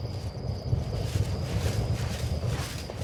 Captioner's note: thunder